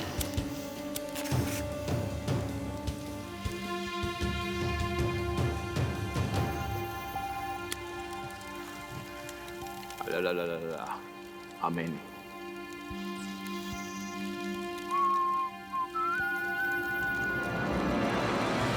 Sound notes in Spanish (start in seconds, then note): 13.6 silbidos